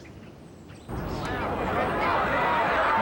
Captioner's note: crowd murmuring